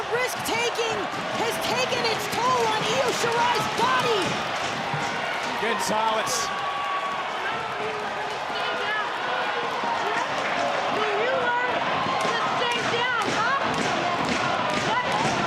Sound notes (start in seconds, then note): 7.7 audience cheering